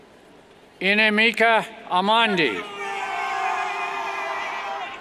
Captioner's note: cheers